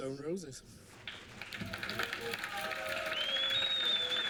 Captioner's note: applause and whistling